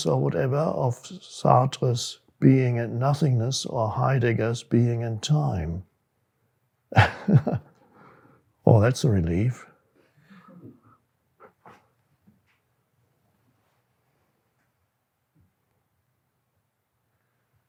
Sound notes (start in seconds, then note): 6.9 laughs